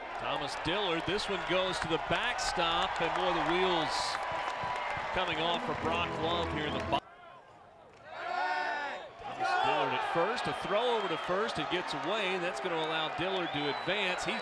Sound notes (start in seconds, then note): 7.4 crowd noise